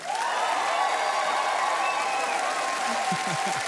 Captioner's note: applause